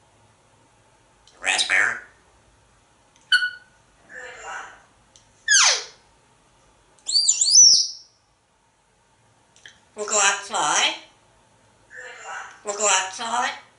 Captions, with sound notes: Raspberry [Squeak sounds] Wanna go outside? Wanna go outside?